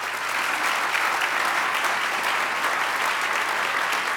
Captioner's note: audience applause